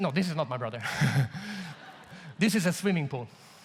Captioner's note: audience laughs